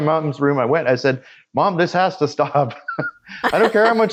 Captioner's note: laughs